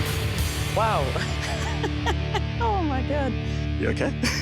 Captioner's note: laughs